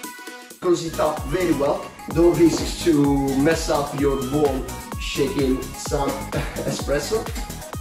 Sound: chuckles

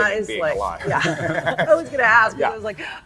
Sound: laughing

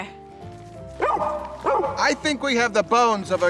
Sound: dog barks

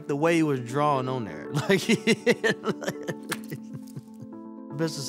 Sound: laughs

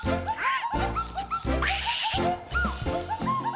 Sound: screams

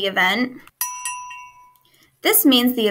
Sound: bell rings

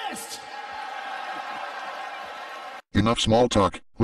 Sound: wrestling fans cheering

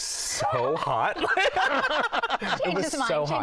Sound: laughter

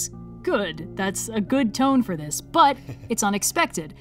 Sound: laughs

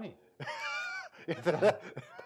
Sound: both laughing; chuckling

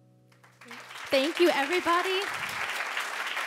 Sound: audience applauding

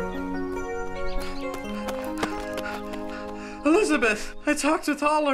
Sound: dirt crunching

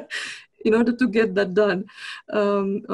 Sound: laughs

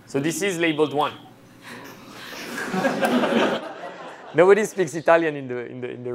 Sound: laughter

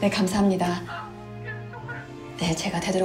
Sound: sobbing

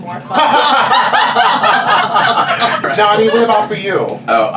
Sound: laughs

